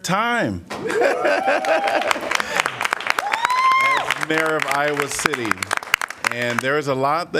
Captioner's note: applause